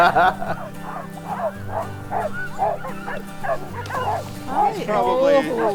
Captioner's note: dogs barking; gentle upbeat music; laughing